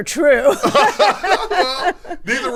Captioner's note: everyone laughs